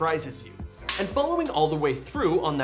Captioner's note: trigger clicks